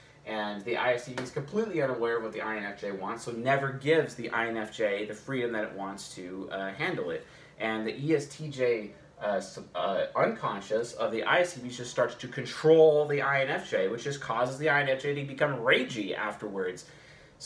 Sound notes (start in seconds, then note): none